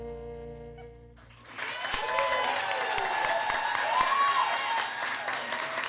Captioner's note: cheers and applause